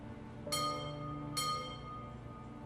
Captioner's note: ringing of bell